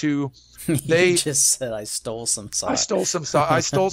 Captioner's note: laughs